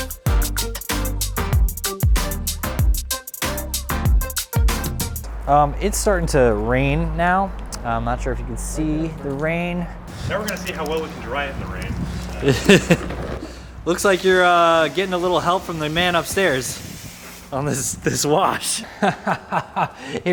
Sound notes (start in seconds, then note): 12.4 chuckles; 18.8 laughing